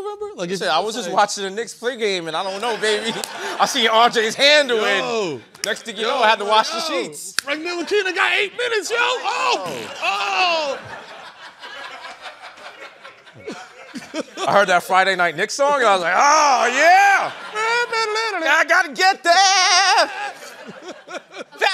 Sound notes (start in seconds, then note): 9.6 farting noise; 9.7 laughter